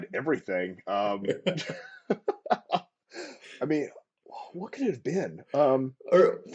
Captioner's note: laughter